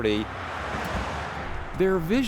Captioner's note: car rumbles